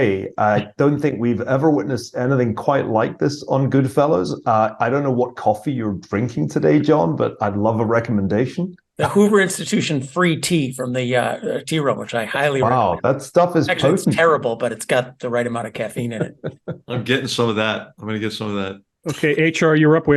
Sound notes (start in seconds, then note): 15.9 laugh